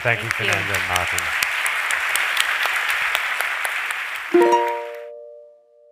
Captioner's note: applause